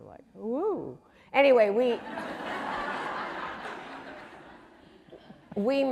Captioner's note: audience laughing